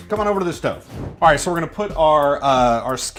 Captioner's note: whooshing